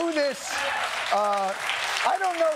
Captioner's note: applause